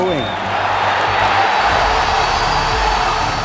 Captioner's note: crowd cheering